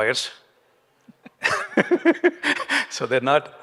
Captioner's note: panelists chuckling